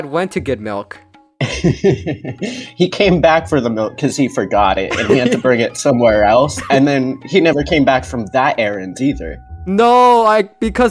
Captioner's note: laughs